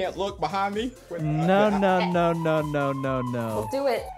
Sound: alarm blares; laughs

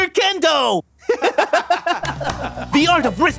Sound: laughs

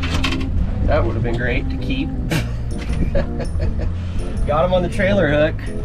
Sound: laughs

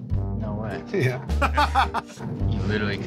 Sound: laughter

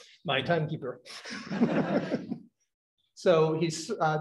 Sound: laughter

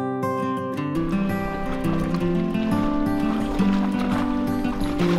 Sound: water lapping

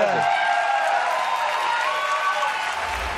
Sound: applause and cheering

